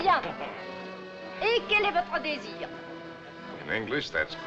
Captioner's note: French